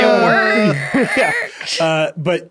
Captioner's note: laughing